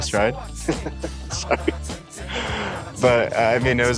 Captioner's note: laughs